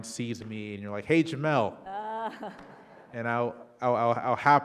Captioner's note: audience laughing